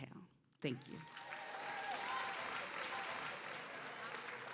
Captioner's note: cheers and applause